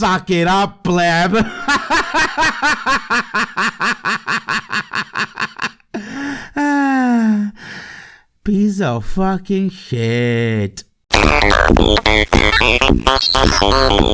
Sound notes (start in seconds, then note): 5.9 sigh